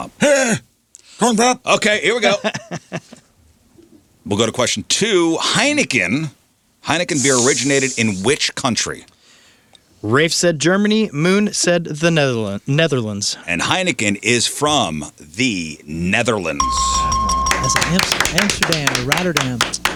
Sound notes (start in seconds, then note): 16.6 bell dings